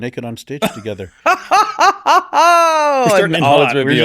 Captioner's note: laughs